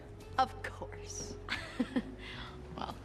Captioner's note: laughs